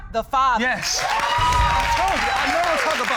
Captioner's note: audience cheers